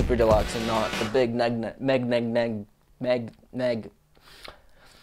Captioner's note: stutters